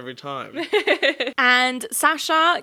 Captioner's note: giggling